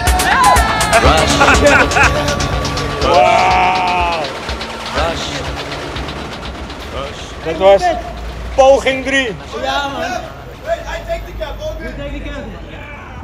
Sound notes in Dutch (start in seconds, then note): 0.8 Uncontrollable Laughter